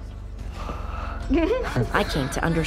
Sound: chuckles

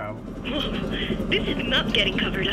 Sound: helicopter engine

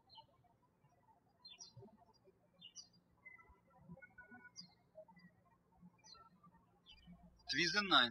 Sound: birds chirping

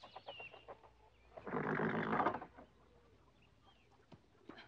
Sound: horse grunting

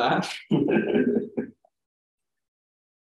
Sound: laughs

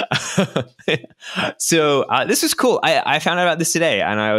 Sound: laughs

